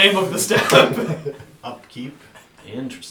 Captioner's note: all laugh